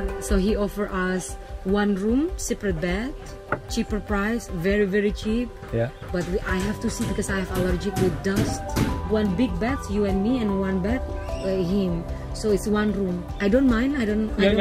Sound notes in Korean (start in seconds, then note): 5.6 현재 공사소리가 들리는 집